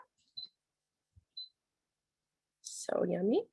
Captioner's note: machine beeping